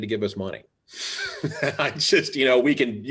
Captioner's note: laughing